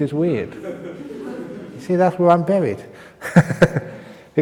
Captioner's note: laughs; laughs